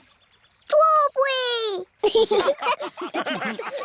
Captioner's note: laughter